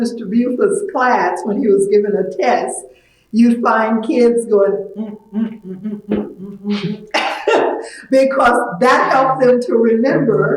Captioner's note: humming